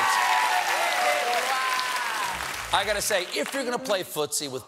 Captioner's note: cheers and applause